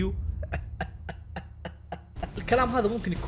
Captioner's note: chuckles